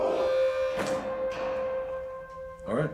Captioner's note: door opens